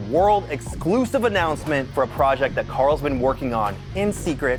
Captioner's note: none